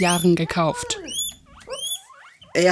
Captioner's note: squeaking